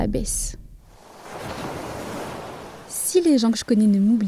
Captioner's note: sound of waves